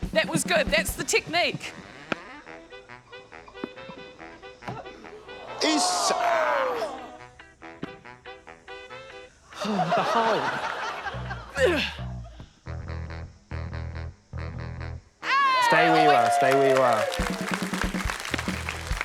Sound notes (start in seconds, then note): 11.5 sighs; 11.5 grunts